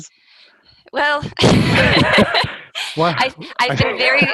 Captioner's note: laughs